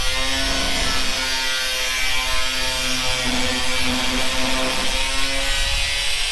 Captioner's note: motor whirring